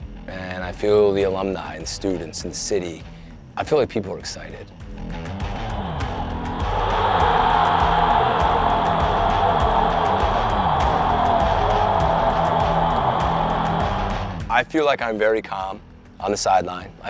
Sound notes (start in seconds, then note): 5.0 upbeat music; 5.4 crowd cheering